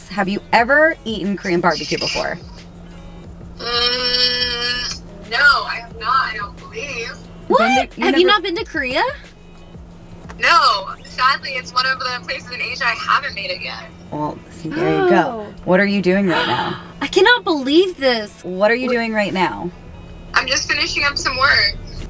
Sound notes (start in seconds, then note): 16.3 gasping